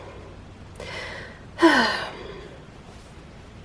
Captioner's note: sigh